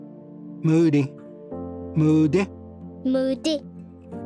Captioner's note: repeats in Cherokee